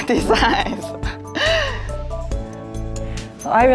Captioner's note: nervous laugh